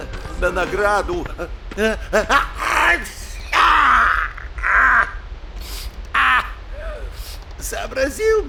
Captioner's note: sneezing, and sneezing again